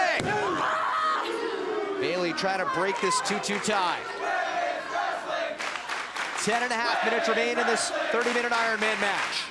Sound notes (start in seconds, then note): 4.3 crowd cheering